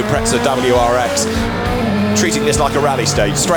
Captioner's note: car engine revving